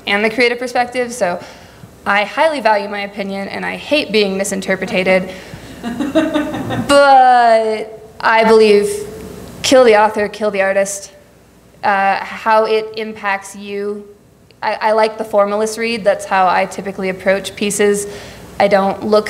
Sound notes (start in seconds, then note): 5.7 laughing